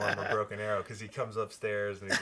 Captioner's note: laughs